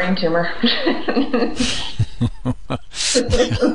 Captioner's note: both laugh